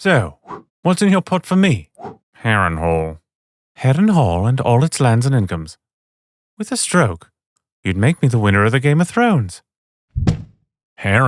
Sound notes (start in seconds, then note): 2.4 Tyrion voice